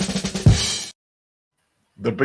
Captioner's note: laughing